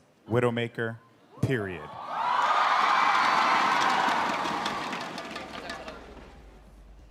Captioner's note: cheers